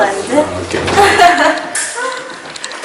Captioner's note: laughs